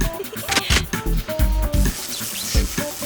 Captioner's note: chuckles